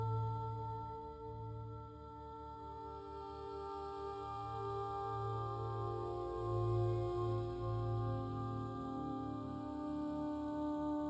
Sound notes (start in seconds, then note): none